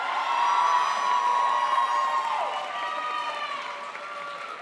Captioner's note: crowd applauds